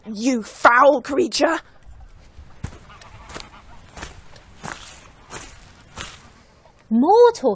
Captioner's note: Footsteps as Ophelia enters